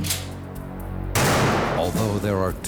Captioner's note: gunshot